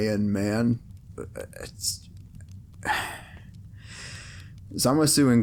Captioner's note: audible confusion